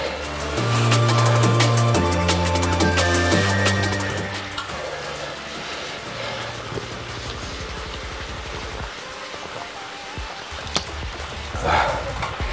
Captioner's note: breathing